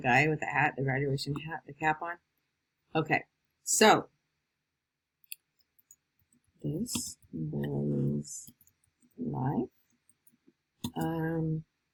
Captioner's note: typing